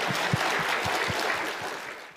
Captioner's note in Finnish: Yleisön taputuksia